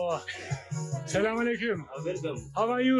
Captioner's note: in Arabic